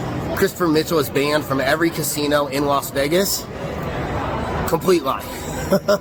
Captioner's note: laughs